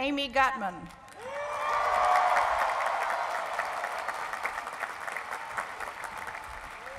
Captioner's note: cheering and applause